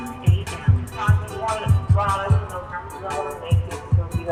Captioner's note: voicemail plays over music